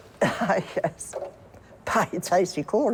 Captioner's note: laughing